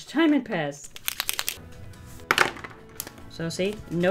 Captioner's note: pen shaking